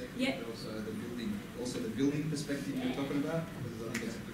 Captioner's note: voiceover